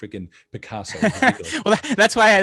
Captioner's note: laughing